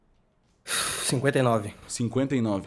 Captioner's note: sighs